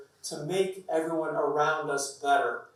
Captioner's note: none